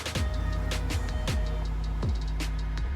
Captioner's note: vehicle driving